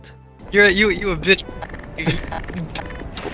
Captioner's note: mic cutting